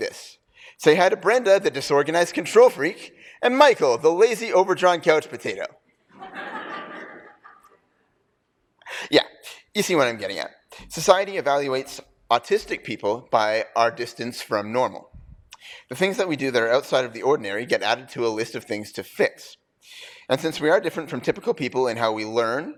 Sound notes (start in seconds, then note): 6.1 laughter